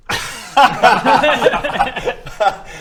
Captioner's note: unsurprised laughter